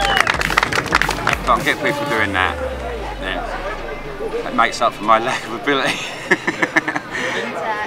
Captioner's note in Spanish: Se ríe de nuevo